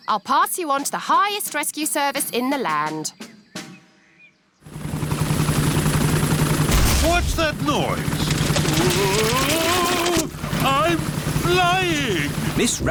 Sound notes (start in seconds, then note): 5.4 whirring; 6.6 thuds